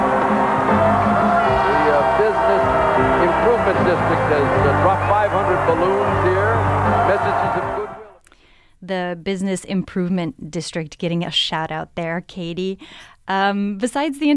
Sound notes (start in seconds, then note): 1.7 crowd cheering and music playing in the background